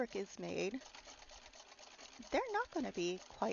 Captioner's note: clacking